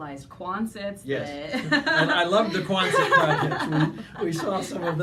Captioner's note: laughing